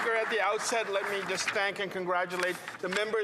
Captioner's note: some Applause